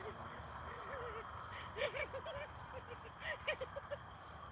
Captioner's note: laughs